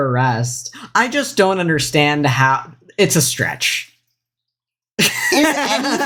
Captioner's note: laughs